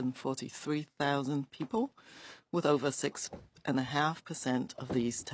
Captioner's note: speaking FRENCH